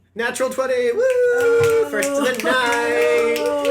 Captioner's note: snaps